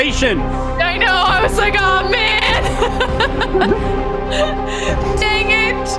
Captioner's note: giggles